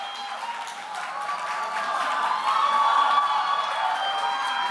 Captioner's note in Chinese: 更熱烈的掌聲 • ̀ω•́